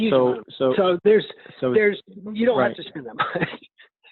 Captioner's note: laughing